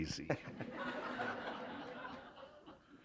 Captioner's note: laughter